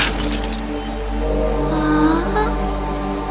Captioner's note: moans